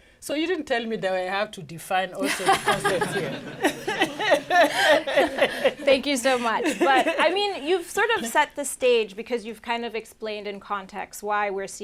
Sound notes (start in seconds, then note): 2.2 laughter